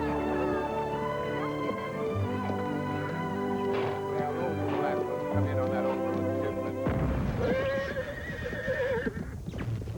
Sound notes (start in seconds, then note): 6.8 distant explosion; 7.3 whinnying